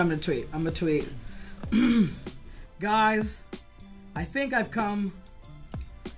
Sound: clears throat

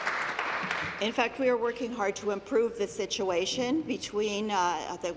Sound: applause

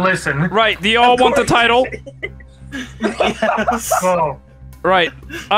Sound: chuckling

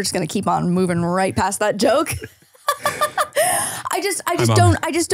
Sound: laughing

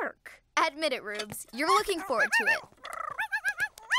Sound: yipping

